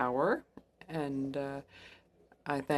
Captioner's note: speaking French